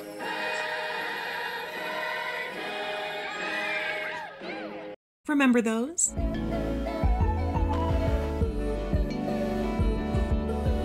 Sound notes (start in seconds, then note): 3.2 screams